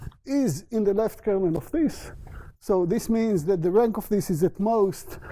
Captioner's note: none